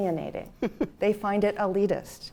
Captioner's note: chuckle